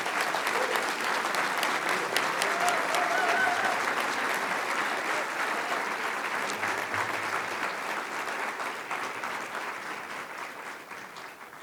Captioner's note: applause